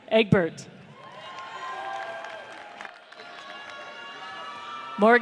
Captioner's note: audience cheers